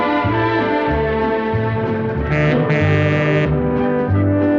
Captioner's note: monorail horn